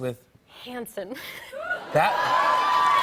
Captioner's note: cheers and applause